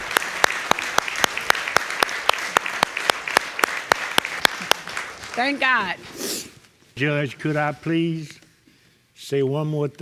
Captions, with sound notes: Thank God. (SNIFFLES) Judge, could I please say one more thing?